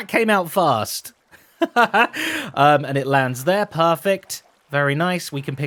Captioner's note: laughs